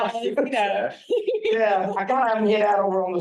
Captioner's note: laugh